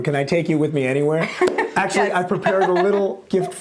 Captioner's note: chuckles